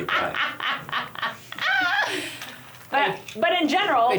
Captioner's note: laugh